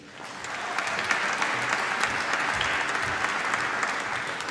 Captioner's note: applause